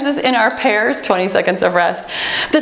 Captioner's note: timer beeps